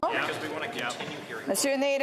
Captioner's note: speaking French